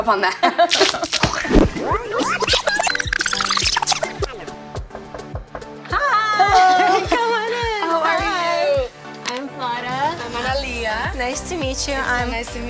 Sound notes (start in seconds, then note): 0.3 laughs; 1.1 tape fast forwarding; 1.1 light happy music